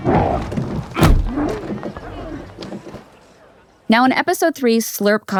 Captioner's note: Slurp grumbling